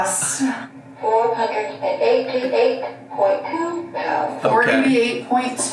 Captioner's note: automated Voice